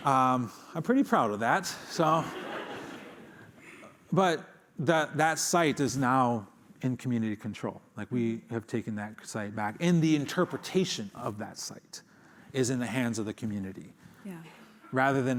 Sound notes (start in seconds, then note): 2.1 laughter